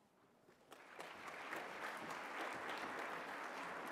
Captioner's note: applause